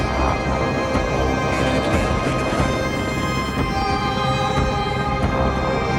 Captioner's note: people talking on radio